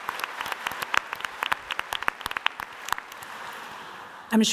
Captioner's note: audience applauding